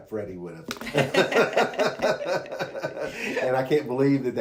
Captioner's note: laughs